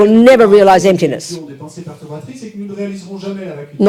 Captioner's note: audience member speaks in French